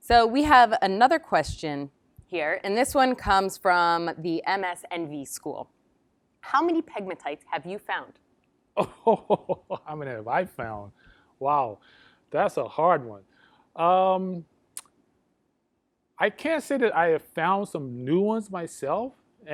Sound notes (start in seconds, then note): 8.8 laughs